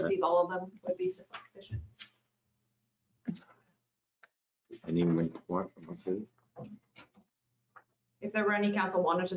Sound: no audio

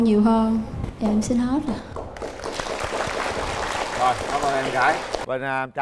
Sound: applause

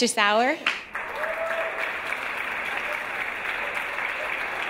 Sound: audience applause

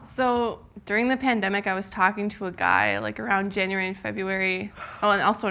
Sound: none

